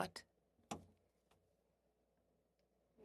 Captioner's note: speaking French